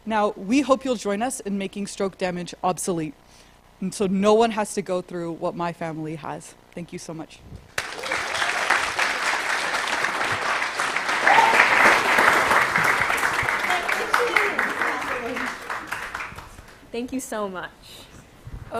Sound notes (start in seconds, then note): 7.7 applause